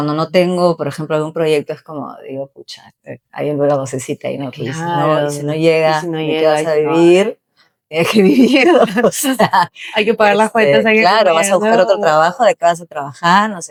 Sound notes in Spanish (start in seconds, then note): 9.2 risas